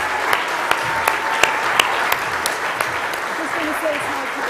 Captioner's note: applause